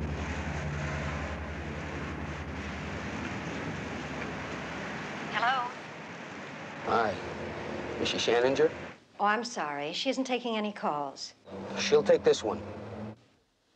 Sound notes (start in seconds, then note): 5.3 on phone